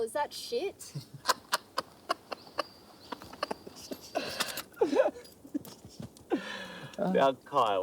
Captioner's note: laughing